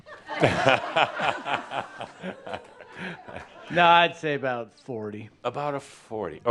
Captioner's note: laughter